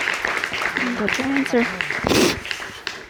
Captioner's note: sniffles